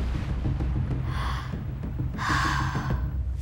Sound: gasping

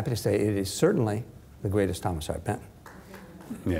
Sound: applause

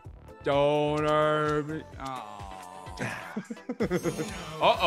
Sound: laugh

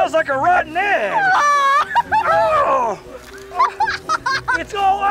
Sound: laughing

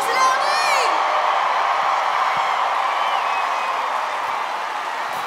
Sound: applause

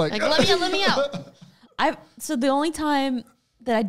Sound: laughs

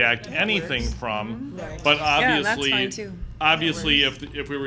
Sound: background chatter

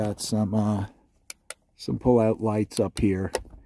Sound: switch clicks

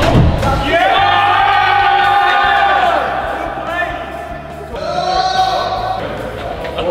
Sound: cheering

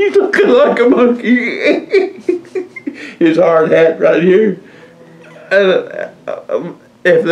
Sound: laughs

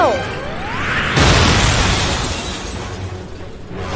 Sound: explosion

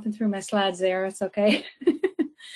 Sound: chuckles

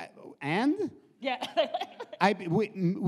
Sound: laughs

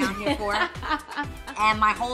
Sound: laughing

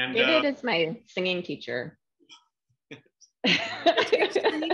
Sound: laughter

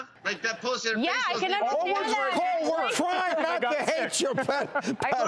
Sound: chatter and arguing among hosts

